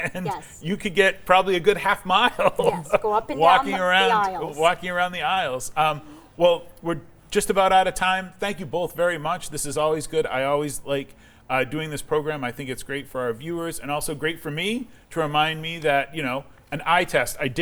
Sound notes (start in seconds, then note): 2.1 laughing